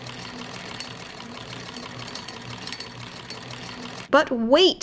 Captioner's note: clicking and rattling